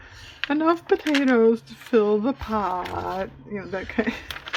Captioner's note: laughs